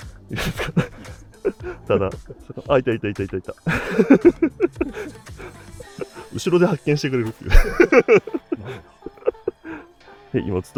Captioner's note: laughs